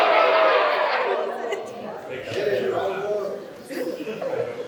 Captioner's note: applause